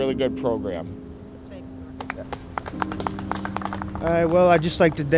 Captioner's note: applause